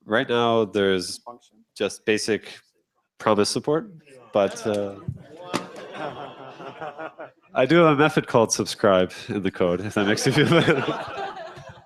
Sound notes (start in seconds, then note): 5.3 groaning and laughter; 11.6 laughter